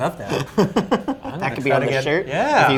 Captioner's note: laughs